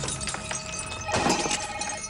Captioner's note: ring